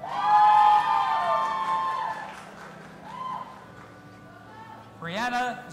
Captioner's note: audience applauding and cheering